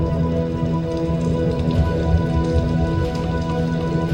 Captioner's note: rain splattering